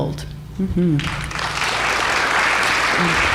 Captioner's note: applause